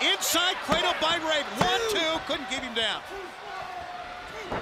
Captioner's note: crowd cheering